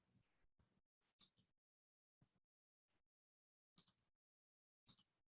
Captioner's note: mouse clicking